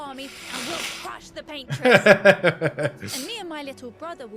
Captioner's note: laughing